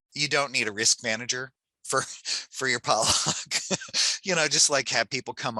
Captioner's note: laughs